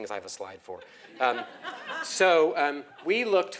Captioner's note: laugh